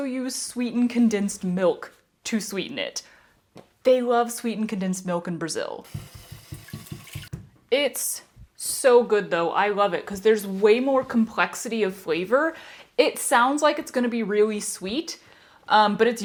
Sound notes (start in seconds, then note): 5.9 water and plops